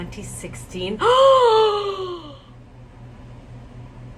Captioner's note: gasps